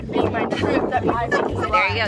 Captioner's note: laughing